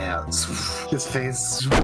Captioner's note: swoooff; zzzpoofff